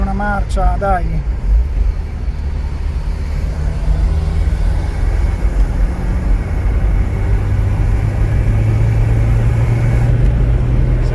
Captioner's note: engine revving up